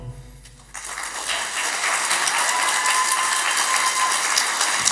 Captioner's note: applause